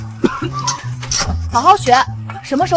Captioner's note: cough cough